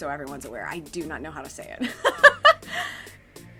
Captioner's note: laughs